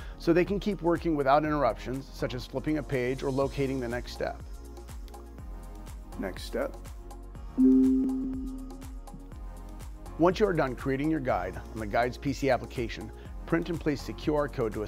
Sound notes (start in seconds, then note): 7.6 alert chiming